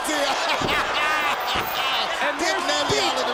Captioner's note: laugh